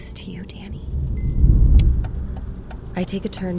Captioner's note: turn signal starts